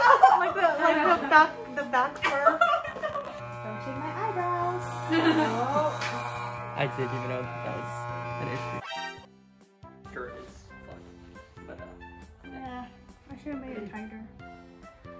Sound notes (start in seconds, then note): 2.4 despair noises; 10.2 mumbling about this and that